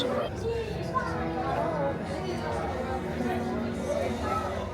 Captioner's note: crowd chattering